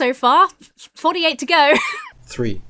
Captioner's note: laughs